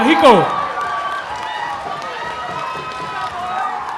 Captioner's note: applause